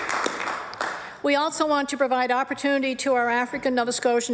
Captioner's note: applause